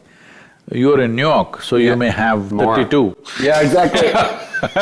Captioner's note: laughs